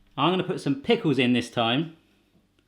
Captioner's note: none